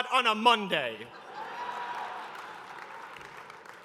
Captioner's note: laughter